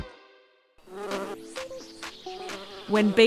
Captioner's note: buzzing